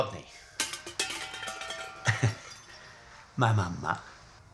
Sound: objects crash

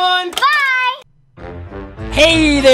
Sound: voiceover

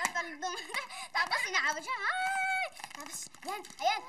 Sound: squealing

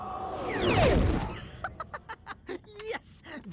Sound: laughing

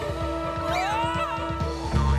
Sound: screaming

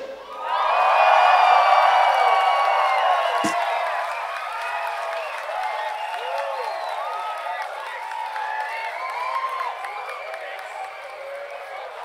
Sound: audience cheers

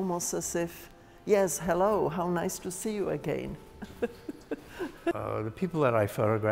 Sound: laughs

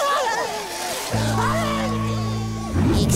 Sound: crying

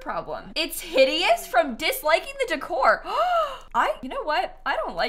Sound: gasps

